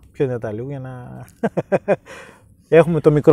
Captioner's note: chuckles